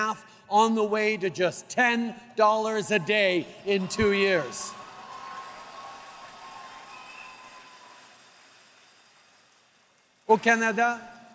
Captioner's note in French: Acclamations et applaudissements